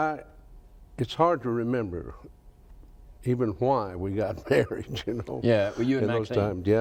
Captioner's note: laughs